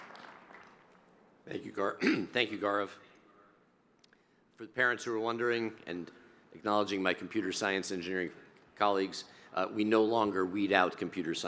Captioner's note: applause